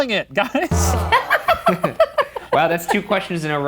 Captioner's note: laughing